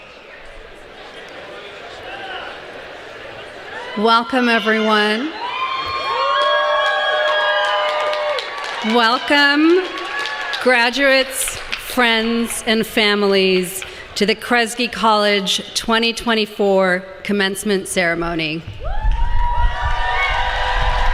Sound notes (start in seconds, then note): 6.0 applause